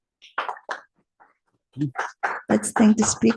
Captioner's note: applause